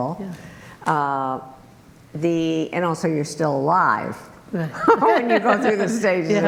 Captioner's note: laughing